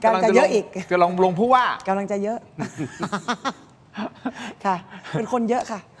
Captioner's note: laughter